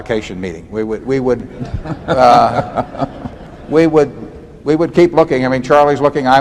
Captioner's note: laughter